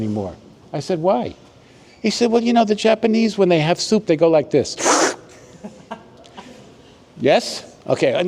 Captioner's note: slurping sound